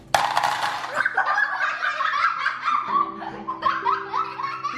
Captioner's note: children laughing